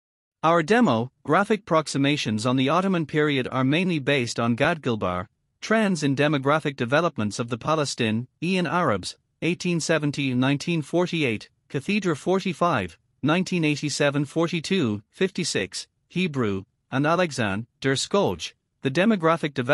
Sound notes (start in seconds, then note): 14.6 Hebrew